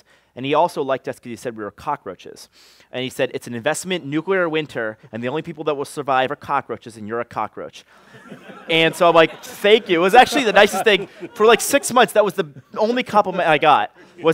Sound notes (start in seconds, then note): 8.0 laughter